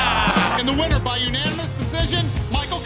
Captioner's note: cheers and applause